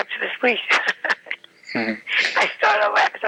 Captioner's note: laughing